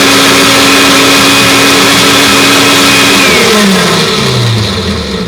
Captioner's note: blender